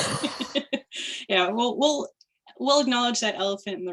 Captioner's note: chuckling